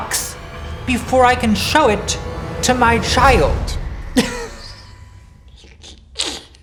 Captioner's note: laughing